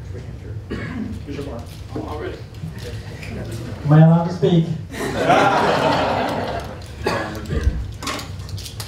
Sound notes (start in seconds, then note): 4.9 laughter